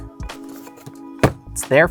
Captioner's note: box thuds